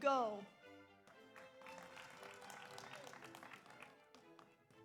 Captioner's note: audience applauds